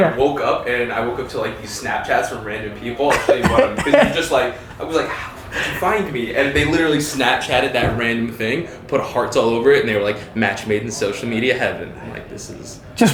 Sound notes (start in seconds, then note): 3.0 laughing